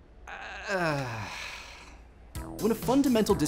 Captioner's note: sigh